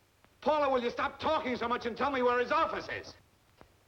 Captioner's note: on phone